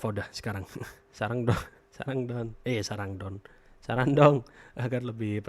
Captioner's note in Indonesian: tertawa